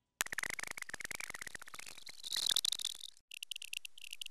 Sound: variable pitched chirping

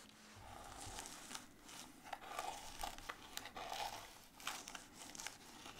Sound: paper layer crunching

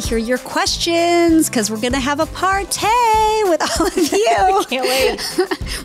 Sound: laughs

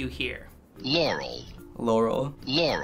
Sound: voice-over

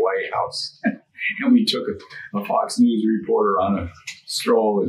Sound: laughing

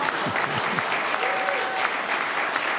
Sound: laughter; applause; laughter

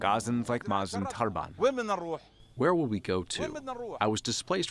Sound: through translator

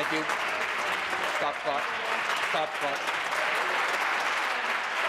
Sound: applause

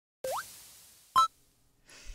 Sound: tuna collecting sound

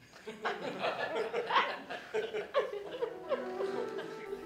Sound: audience laughter

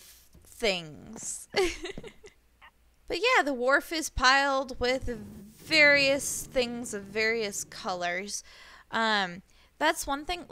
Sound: laughs

